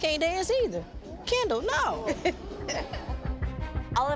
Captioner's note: laughs